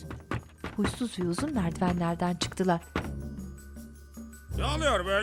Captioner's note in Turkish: Ayak sesleri